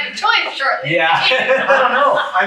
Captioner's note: laughter